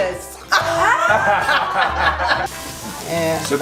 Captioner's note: laughter